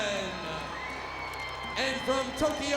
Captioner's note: audience cheers